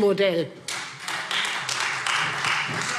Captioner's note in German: Beifall Freie Demokraten